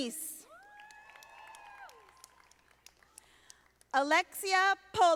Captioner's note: audience applauding